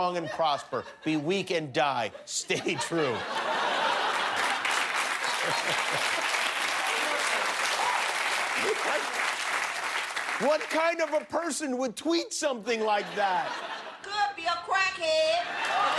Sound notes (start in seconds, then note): 4.0 laughter; 6.1 applause